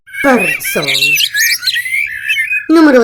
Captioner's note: birds chirping